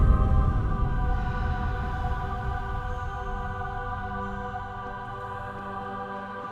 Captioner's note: tense music; soft airy music; voices murmuring